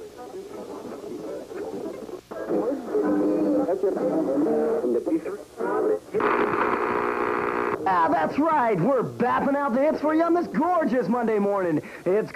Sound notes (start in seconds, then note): 1.2 switching through radio stations